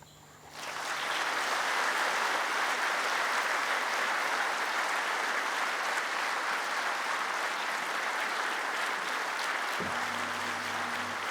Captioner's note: applause